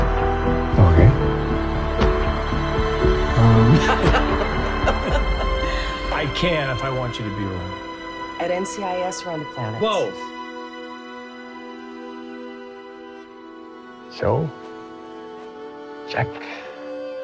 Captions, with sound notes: Okay. Um... (laughs) I can if I want you to be around. At NCIS or on the planet? Both! So, Jack?